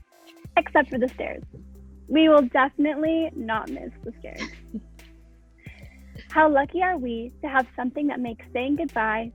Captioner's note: laughter